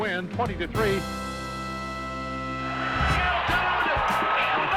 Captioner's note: cheering